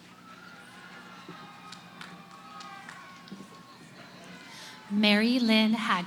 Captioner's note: cheering